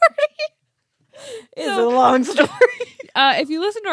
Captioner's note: laughs; both laughing